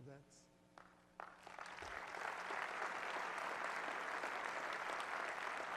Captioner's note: audience applauds